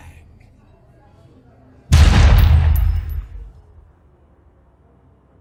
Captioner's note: gun firing